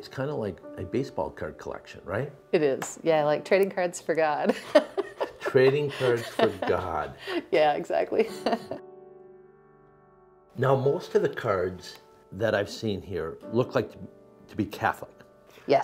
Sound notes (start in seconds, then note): 4.5 laughing; 8.8 gentle music